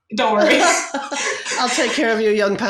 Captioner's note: laugh